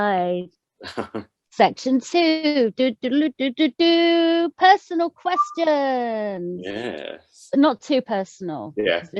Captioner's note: imitates fanfare trumpet